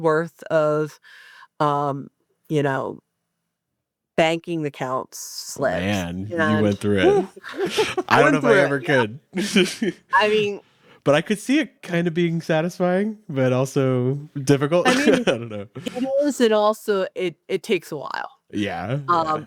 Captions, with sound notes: of banking account slips- - Man, you went through it. - Woo (laughs)! - I went through it. - I don't if I ever could (laughs). - I mean- - But I could see it kind of being satisfying but also difficult, I don't know (laughs). - I mean, and also it takes awhile. - Yeah.